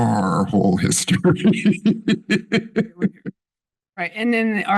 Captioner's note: laughs